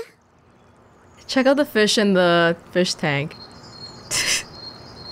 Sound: chuckles

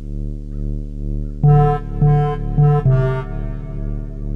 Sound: beeping

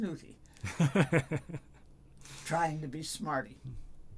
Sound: laughs

